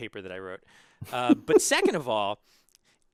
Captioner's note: laugh